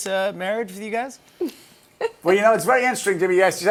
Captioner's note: laughs